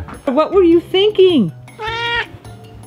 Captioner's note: meow